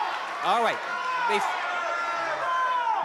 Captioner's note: chatter from crowd